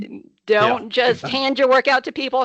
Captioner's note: laughing